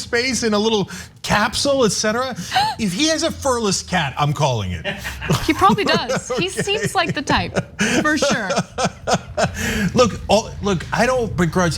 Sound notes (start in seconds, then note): 4.8 laugh